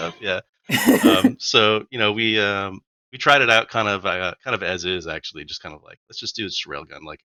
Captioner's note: laughter